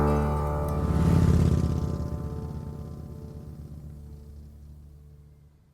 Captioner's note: motorbike roaring